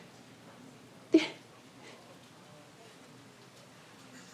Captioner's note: laughs